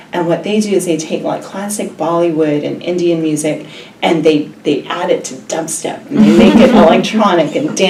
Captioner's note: laugh